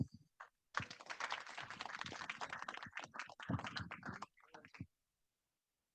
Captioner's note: audience applauds